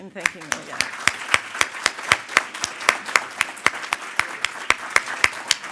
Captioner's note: audience applauding